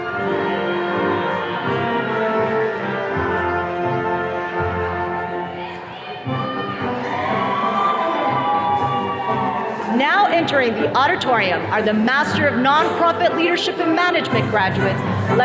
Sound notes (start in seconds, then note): 7.9 attendees cheering